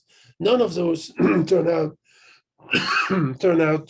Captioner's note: coughing